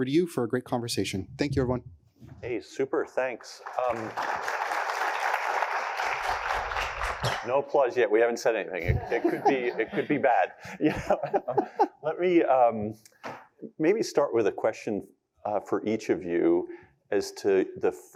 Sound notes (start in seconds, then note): 3.5 applause